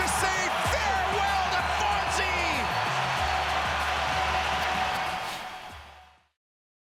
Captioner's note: cheers and Applause